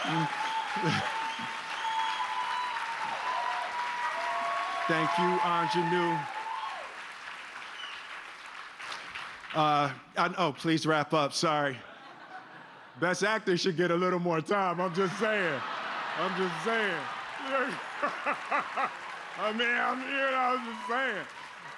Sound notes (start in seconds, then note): 1.7 cheers and applause